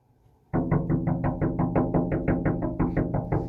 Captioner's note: crazily knockings